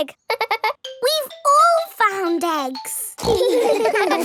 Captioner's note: giggles; snorts; giggling